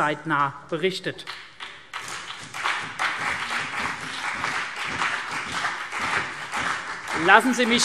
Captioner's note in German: Beifall CDU und BÜNDNIS 90/DIE GRÜNEN